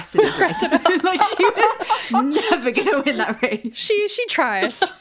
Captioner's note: laughing